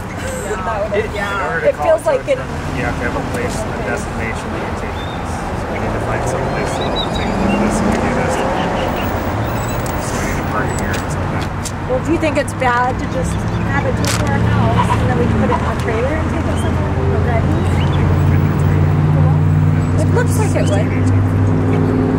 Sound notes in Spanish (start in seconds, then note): 0.2 charla en grupo; 7.2 coche revoluciones